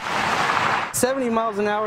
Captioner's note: sound of cars